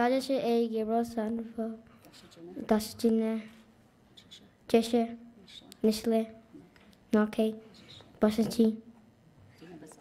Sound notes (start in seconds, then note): 0.1 speaking in foreign language